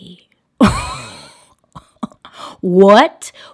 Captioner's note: laughs